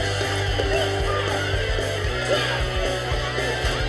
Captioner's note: indistinct chatter